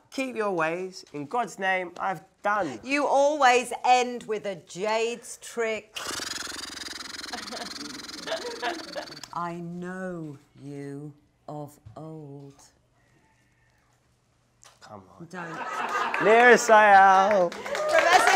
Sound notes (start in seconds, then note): 6.0 horse noise